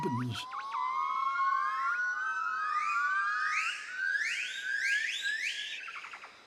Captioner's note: high-pitched hooting